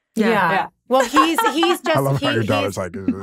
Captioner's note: laughing